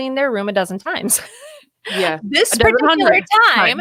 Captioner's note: laughing